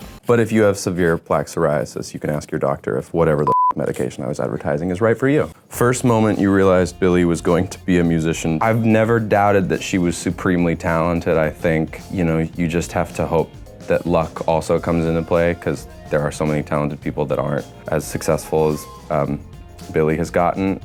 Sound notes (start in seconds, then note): 3.4 beep